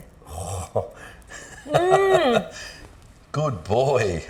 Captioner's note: chuckling